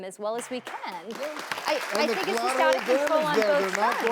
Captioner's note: audience claps